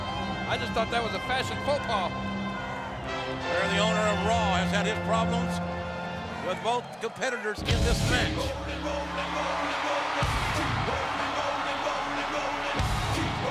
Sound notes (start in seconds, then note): 10.1 crowd cheers